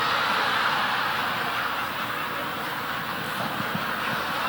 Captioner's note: audience laughing